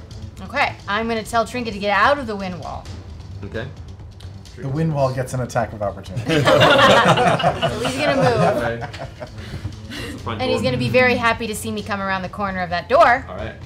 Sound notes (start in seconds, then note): 6.1 laughter